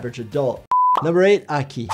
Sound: video beeping

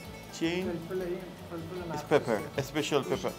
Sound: speaks in foreign language

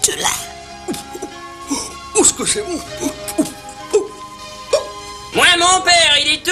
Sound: hiccuping

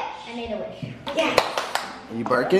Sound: clapping

